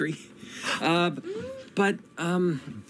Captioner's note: gasps